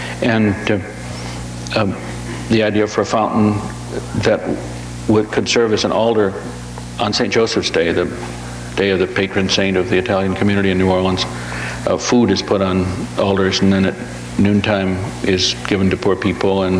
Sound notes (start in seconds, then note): none